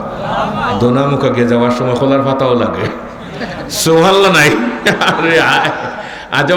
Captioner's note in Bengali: সশব্দ হাসি